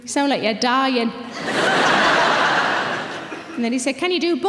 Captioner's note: audience laughing